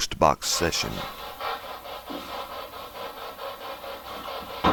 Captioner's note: machine humming